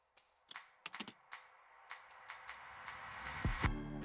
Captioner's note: keys clicking; upbeat music